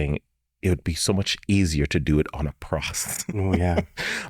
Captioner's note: chuckles